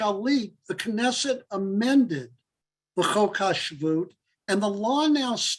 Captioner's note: Hebrew